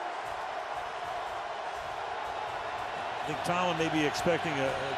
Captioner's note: cheering